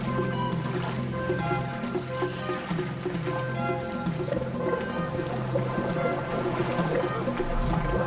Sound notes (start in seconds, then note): 4.7 gurgling